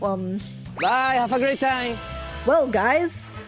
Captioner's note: meme voice